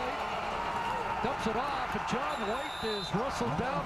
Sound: cheering/applause

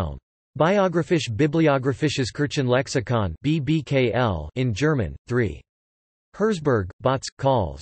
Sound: in German

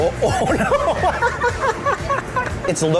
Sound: laughs

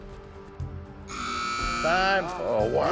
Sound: buzzer sounds

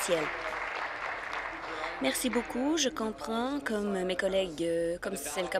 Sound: applause

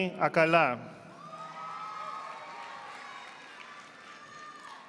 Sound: audience applauding

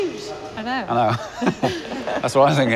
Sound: laughs

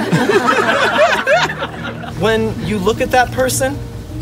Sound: crowd laughs

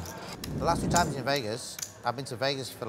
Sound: whoosh

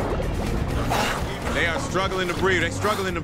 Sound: urgent music; contestant panting

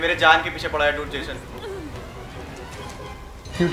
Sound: speaking foreign language; spooky music

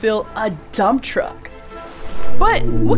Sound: blue whale call

